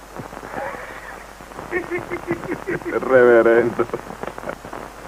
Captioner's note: giggling